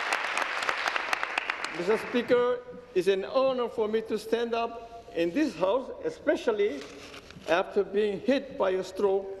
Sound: applause

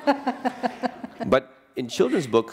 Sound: laughter

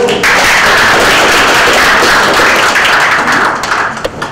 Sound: audience applauding

